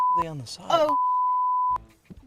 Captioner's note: beep